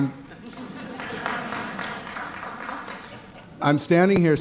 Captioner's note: laughter